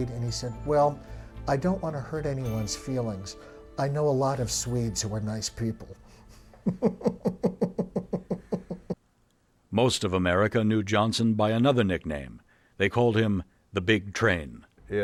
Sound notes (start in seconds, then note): 6.6 laughing